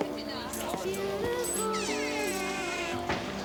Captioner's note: door creaks; door closes